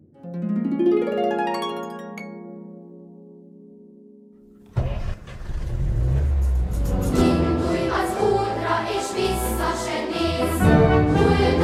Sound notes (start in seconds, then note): 4.6 GAZ M20 engine revving; 7.0 performed by the Children's Choir playing